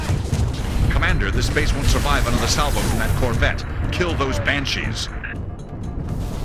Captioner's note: radio